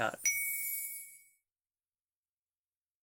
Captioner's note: sparkle sound effect